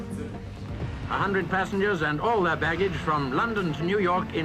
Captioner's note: radio voice